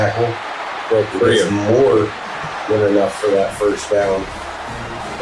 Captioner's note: crowd Noises